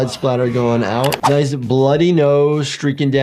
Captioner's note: mouse clicking